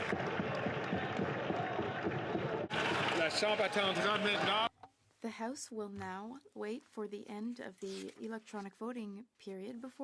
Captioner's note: speaking French